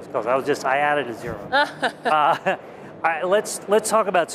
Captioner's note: laughs